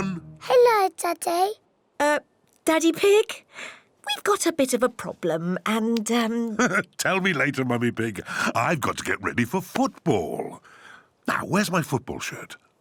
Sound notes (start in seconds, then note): 6.6 laughs